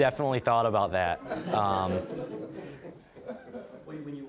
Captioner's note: all laughing